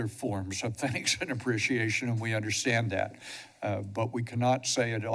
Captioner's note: chuckles